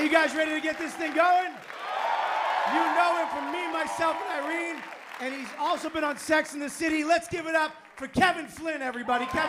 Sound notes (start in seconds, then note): 1.9 cheering